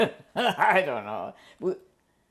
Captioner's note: laughs